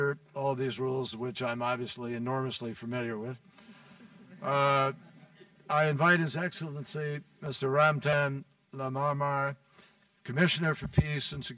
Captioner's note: laughter